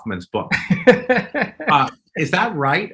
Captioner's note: laughing